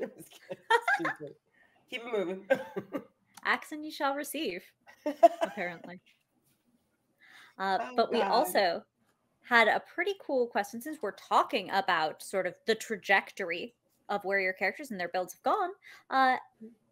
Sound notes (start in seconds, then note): 0.0 laughs; 2.4 laughs; 5.0 laughs